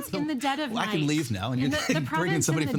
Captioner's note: laughing